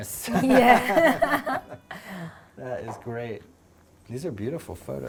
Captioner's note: laughs